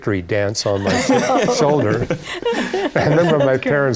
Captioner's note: laughter